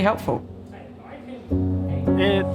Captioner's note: faintly speaking